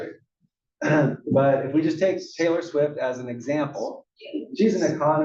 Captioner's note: cough